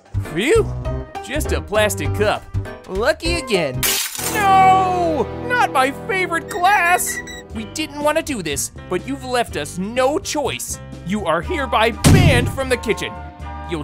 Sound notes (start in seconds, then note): 3.8 glass shattering